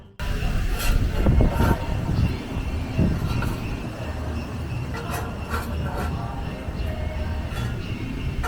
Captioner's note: digging sounds